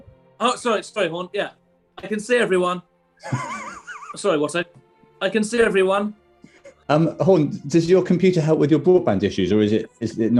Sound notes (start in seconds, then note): 3.7 sniggering